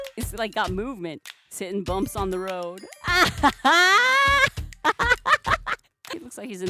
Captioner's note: laughs